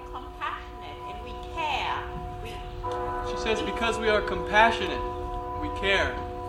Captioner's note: sound of bells